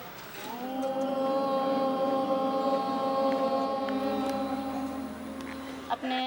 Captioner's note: students chanting "Om"